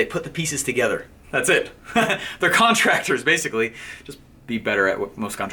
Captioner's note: laughing